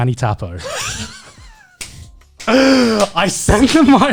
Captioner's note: laughing